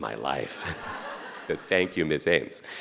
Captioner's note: audience laughing